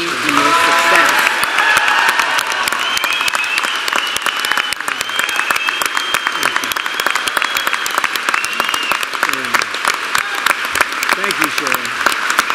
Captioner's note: applause